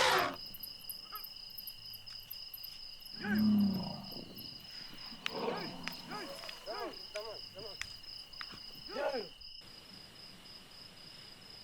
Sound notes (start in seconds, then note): 0.0 trumpets; 5.2 grunts; 5.3 men shouting